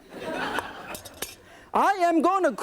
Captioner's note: audience laughing